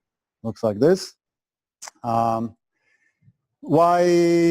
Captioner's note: pause